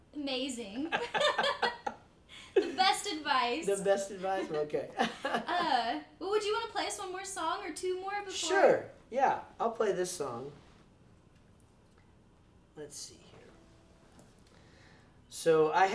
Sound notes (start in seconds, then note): 0.8 laughing; 5.0 laughs